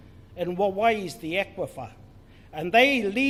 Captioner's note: speaks in foreign language